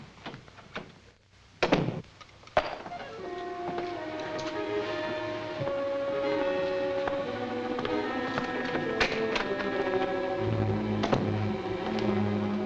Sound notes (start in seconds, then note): 1.9 door thuds shut; 3.8 dramatic music